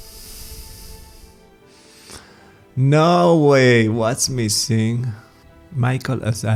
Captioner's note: sigh